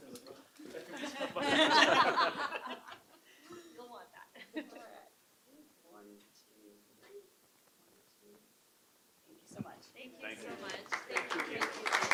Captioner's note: clapping